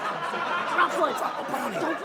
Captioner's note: audience laughing